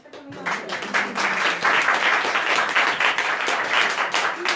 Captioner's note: audience applauding